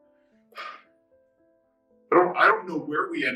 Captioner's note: sighs